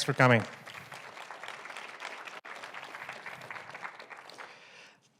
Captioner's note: audience applauds